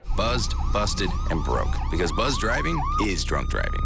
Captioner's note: sirens